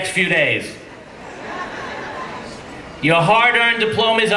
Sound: laughing

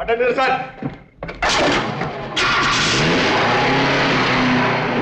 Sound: taxi engine starts

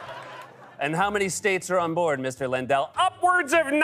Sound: laughter; normal voice

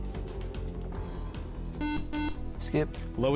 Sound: buzzer

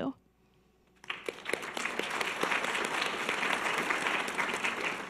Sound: audience applause

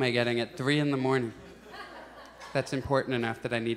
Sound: audience chuckles

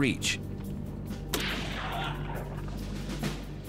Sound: gunshot

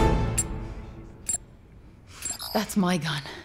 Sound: clicking, then electronic warbling

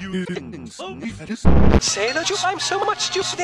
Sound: low, loud bass noise

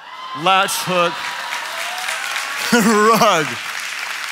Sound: audience cheering

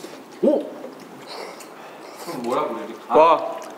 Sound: slurping

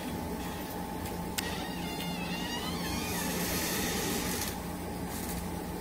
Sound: door squeaking

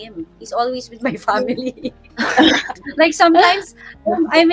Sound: laughing

